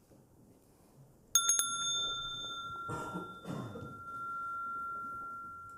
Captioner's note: rings the bell